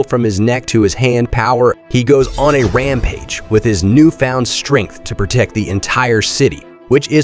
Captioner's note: power-up